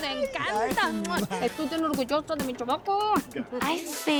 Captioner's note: in Spanish